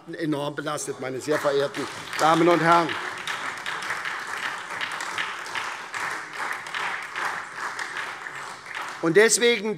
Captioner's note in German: Beifall SPD